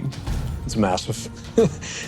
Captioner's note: chuckles